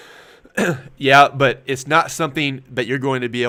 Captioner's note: clears throat